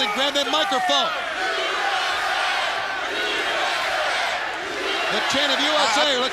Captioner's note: crowd cheering